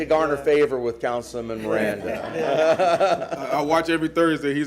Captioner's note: laughter